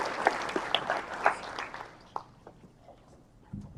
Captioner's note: applause